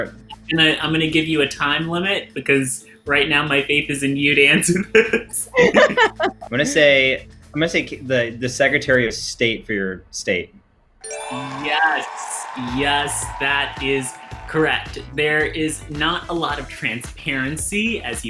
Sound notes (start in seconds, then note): 4.6 laugh; 11.0 chime rings; 11.0 crowd cheers